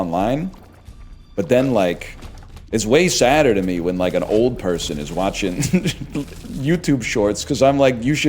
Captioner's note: cracks up